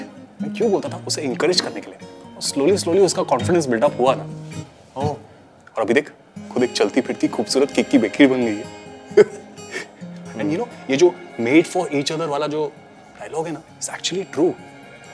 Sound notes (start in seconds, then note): 9.0 Saurabh laughing